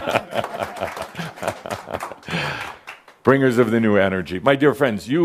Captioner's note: some applause and Adamus chuckles